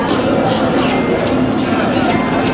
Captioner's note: $$ cash register sounds $$